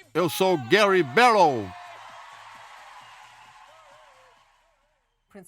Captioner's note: crowd cheers loudly